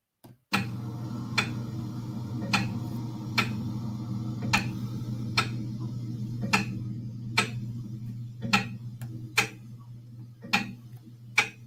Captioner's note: ticking